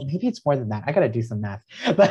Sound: laughs

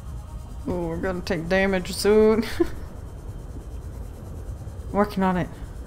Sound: laughs

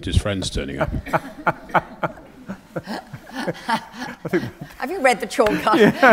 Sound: laughter

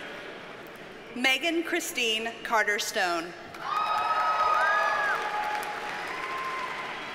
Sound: audience cheers and applauds

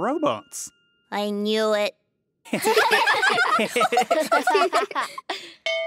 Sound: laughing

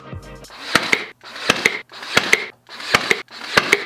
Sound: nail gun

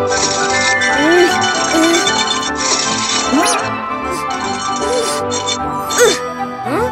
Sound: struggling pushing something

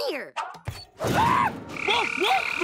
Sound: screaming

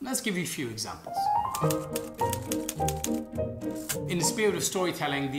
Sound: light piano music; typewriter clicking

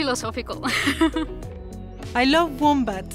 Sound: laughs

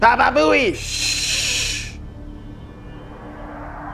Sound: hushing

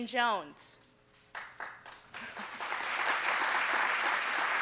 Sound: applause

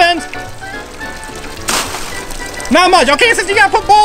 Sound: water splashing

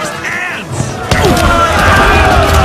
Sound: grunts

